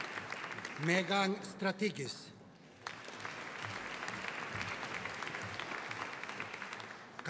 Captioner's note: audience applauding; audience applauding